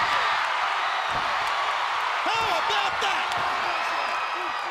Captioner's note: crowd chatter